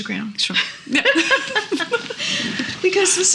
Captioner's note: laughing